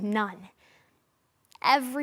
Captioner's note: soft breathing